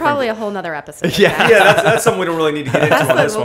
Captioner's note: laughter